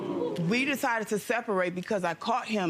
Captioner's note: audience jeer